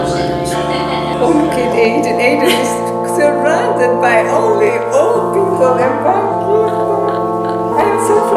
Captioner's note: laughter